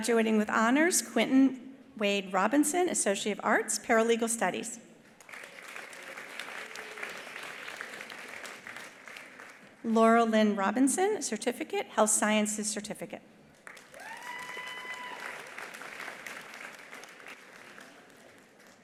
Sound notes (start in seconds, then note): 5.2 attendees applauding; 13.6 attendees applauding; 14.0 attendee cheering